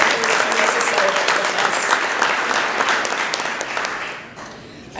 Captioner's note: applause